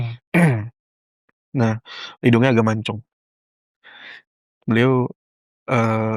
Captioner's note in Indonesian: berdehem